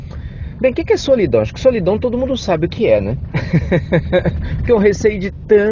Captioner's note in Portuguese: Risos